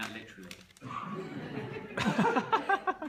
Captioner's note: laughter